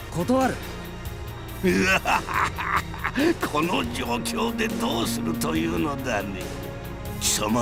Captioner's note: evil laugh